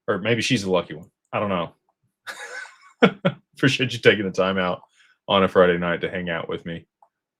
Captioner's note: laughter